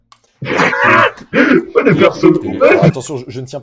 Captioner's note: laughter